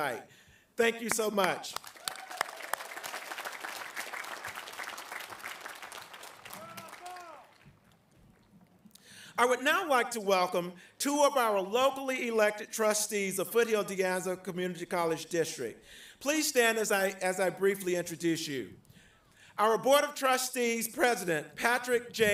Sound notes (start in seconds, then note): 4.9 applause